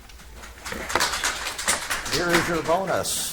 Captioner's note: audience applauds